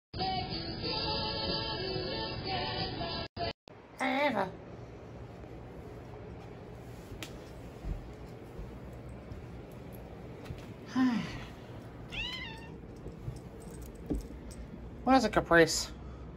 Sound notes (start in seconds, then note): 8.3 sighs then meows